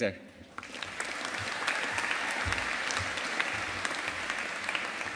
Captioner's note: audience applauding